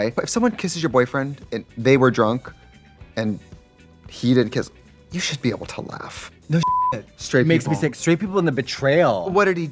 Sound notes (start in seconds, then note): 6.6 beep